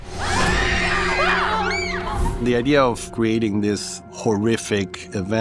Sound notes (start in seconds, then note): 0.0 all screaming